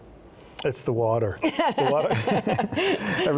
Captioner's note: both chuckling